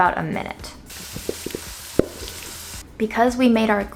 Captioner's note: oil sizzling; spoon tapping